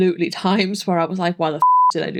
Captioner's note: beep